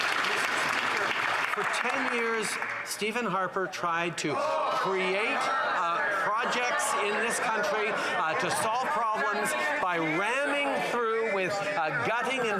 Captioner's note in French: voix de l'interprète